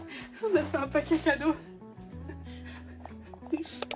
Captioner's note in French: rires